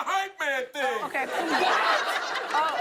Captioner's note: laughter